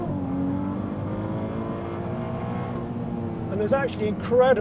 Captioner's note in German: Motor brüllt